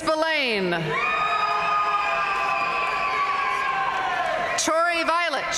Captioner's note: audience cheering and applauding